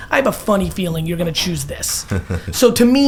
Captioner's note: laughs